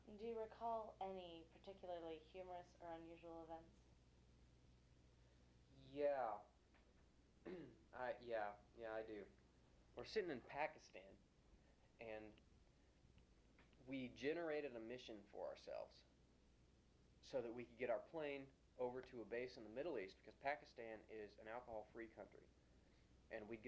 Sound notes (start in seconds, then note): 7.4 clears throat